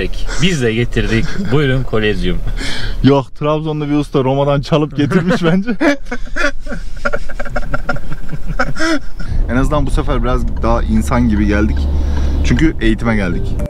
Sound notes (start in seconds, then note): 6.5 laughs